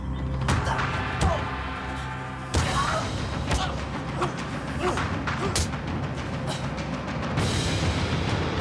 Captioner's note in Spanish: Exclamaciones; Golpes